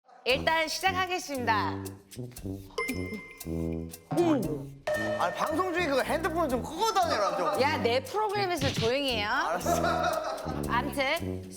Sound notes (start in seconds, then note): 2.1 buzzing; 9.6 bickering from the beginning